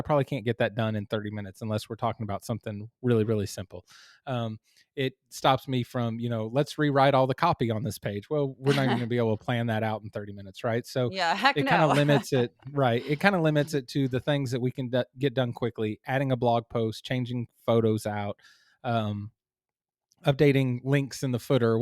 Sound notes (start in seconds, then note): 11.3 laugh